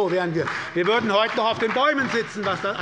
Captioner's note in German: Beifall bei Abgeordneten der SPD und der LINKEN